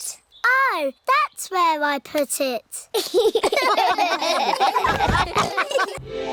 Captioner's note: all laugh